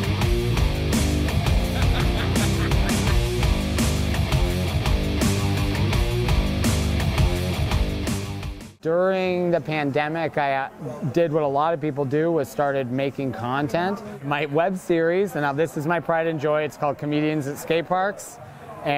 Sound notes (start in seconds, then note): 1.6 laughter; 5.1 intense music